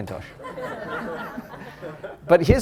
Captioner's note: laughter